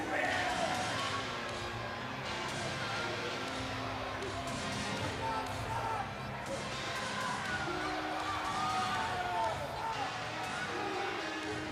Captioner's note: crowd chatter